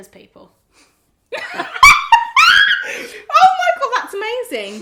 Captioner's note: both laugh